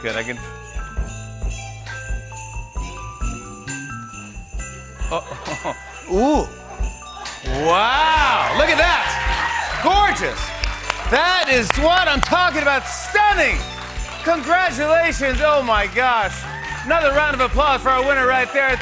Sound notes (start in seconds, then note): 5.0 laughs; 9.5 cheers and applause